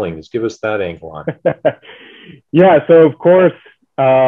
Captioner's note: chuckles